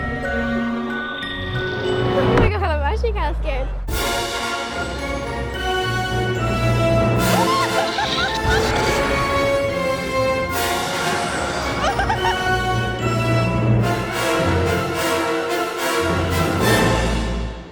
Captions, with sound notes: - Oh my God. I'm actually kind of scared. (dramatic music) (rider laughs) (dragon roars) (rider laughs) (dramatic music)